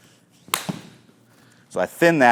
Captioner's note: golf club strikes ball